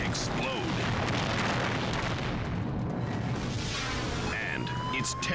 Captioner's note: fire booming